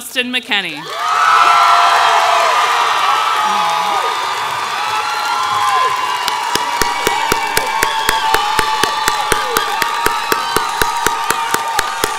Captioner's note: ongoing applause